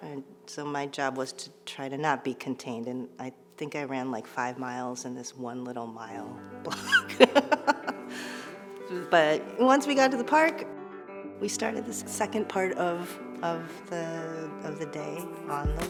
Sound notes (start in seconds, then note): 6.7 laughs